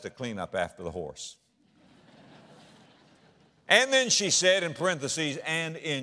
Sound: audience laughter

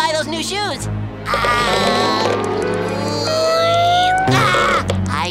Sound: grunting

